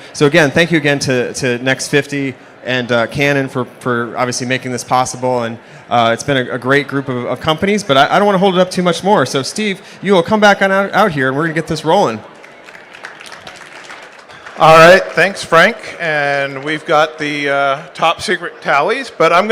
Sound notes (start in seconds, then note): 12.2 applause